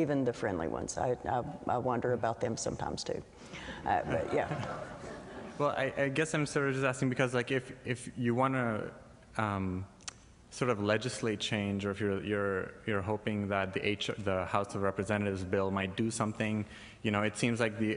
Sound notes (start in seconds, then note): 4.2 laughter